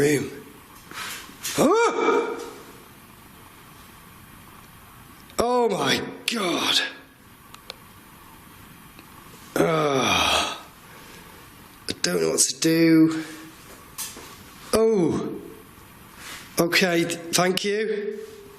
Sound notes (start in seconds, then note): 1.6 yelling; 9.5 groans; 14.6 soft clanking